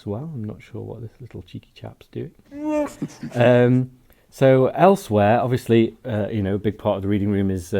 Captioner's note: Chewie laugh